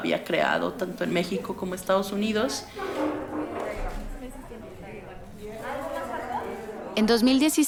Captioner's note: background conversations